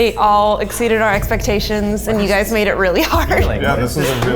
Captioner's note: laughs